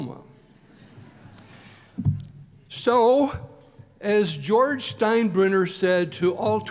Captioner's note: laughter